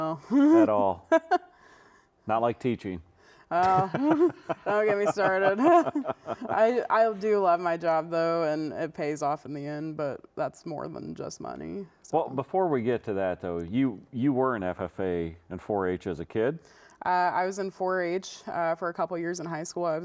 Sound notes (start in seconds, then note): 3.6 laughs